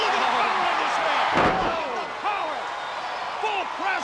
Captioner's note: Flair thudding on ring